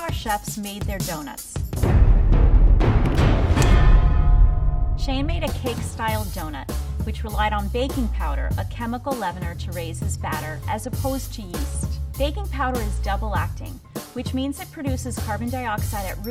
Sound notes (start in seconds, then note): 3.6 loud bell rings